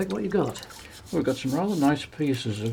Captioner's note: brush scrapes; water splashes